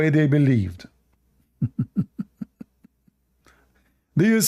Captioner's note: Ketawa